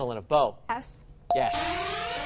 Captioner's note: alarm; bell dings